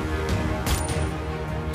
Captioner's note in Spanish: Disparos